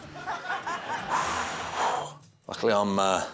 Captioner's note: exhales